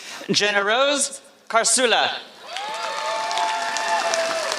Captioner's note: applause